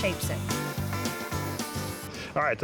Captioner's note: sanding